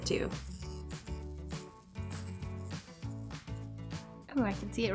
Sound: buzzing sound

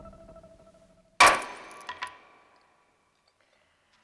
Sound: hammer whacks

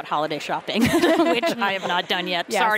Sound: laughter

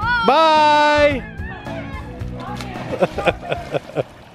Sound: shouting and splashing

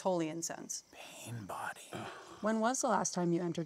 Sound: Kevin scoffs

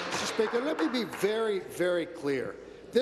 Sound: applause

